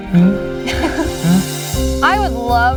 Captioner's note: laughing